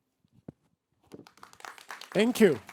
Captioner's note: applause